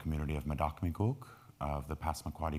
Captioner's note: speaking in foreign language